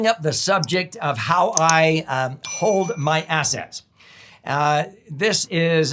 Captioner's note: bell rings